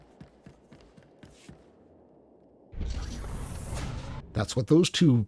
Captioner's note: tython rumbling